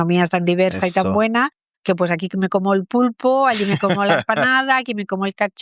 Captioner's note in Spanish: risas